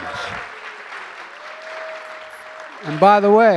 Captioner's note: applause